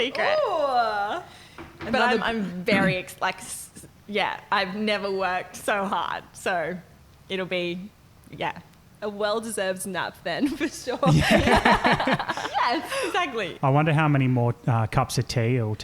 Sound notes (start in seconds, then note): 10.4 laughing